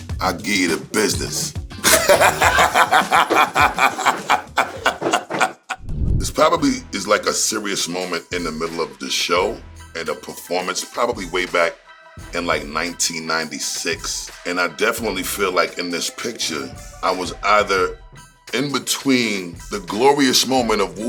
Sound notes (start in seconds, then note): 1.8 laughing